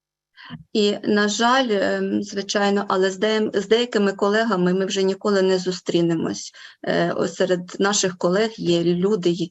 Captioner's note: foreign Language Spoken